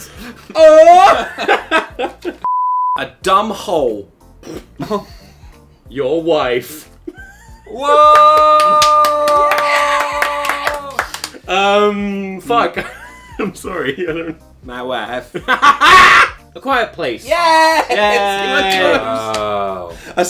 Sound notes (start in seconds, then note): 4.7 snorts; 8.0 claps; 14.8 Borat voice